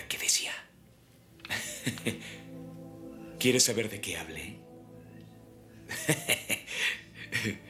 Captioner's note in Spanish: risos